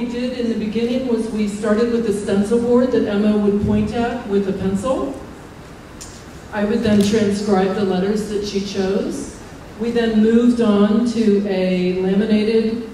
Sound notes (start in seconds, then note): none